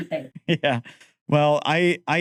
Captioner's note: laughing